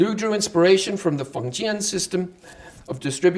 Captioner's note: speaking Chinese